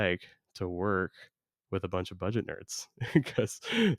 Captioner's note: laughs